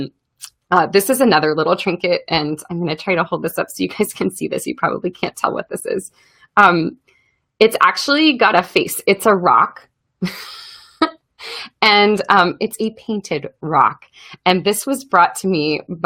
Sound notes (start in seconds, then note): 10.6 laughs